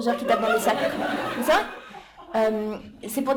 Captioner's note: laughter